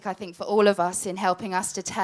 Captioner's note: none